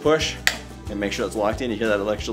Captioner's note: snapping